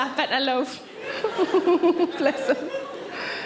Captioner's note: Sarah chuckles